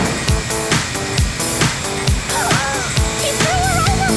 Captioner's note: beeping; gasps